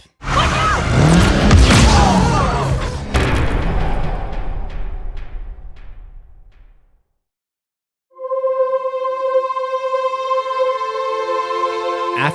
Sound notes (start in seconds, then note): 0.2 car swerves and breaks; 2.7 impact